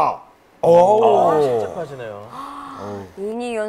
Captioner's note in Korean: 탄식